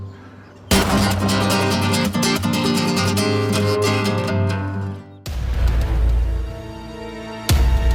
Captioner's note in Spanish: Disparo